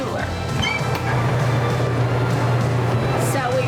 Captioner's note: freezer door squeaks